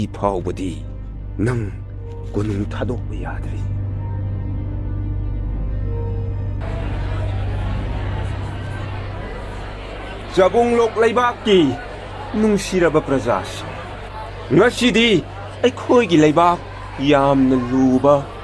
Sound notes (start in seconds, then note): 7.6 people talking